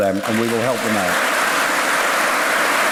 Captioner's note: applause